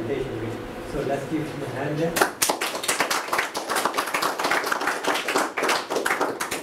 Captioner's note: applause